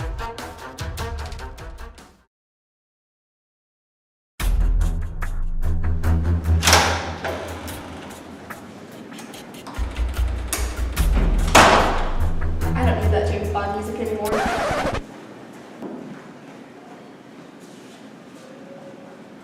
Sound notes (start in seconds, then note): 14.2 record Scratch